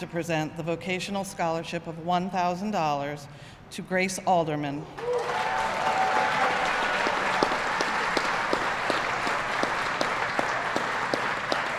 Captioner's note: applause